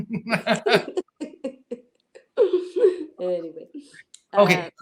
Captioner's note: laughter